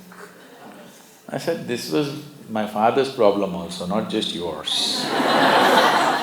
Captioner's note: laughter